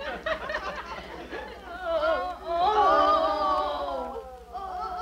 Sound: audience chuckles; prisoners groan

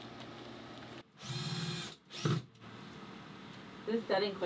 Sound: drilling

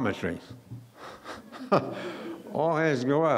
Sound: laughing

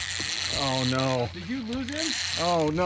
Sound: reel cranking

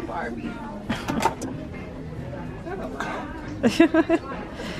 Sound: they laugh

